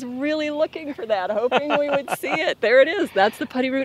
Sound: interviewer laughs

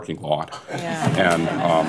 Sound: laughter

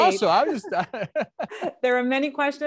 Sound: laughs

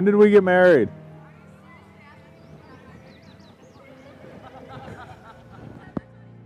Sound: whispers

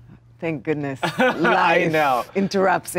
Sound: laughs

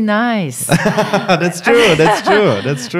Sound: laughing

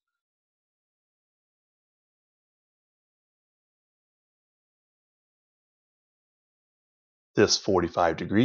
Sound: silence

